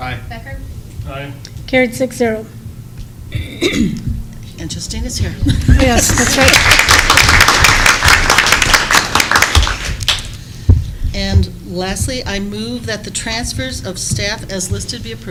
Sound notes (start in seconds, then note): 5.9 applause